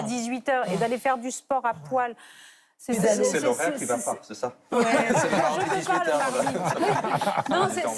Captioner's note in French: rires